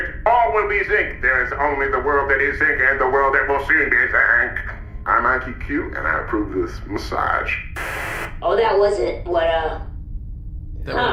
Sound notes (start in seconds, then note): 7.7 TV static